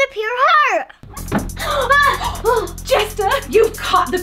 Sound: screams

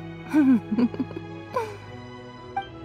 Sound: chuckles

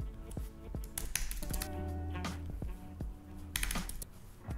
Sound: keyboard clicking

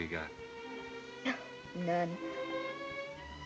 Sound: chuckles

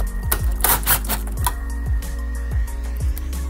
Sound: drill revs

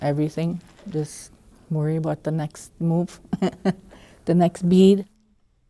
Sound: chuckles

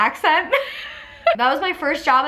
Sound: laughs

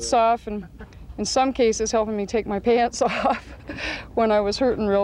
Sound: laughs

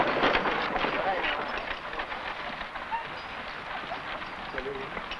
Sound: men chattering

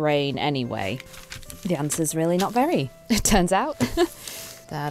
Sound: laughs

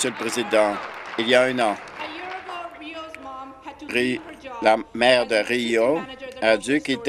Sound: applause

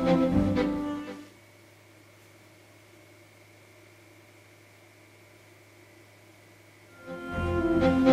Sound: silent fan noise

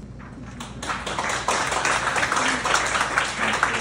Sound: applause

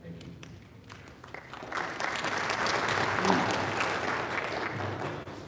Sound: audience applauding

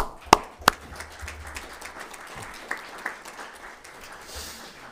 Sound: all applauding

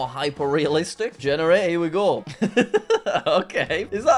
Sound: chuckles

